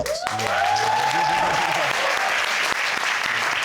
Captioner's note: crowd cheering